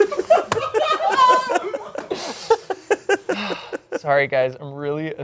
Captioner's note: group laughing